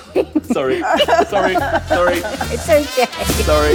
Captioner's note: laughing